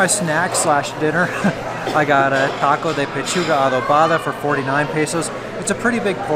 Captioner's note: laughs